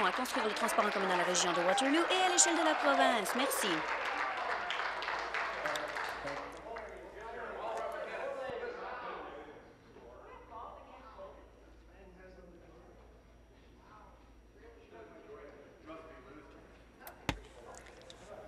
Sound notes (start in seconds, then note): 6.0 some Applause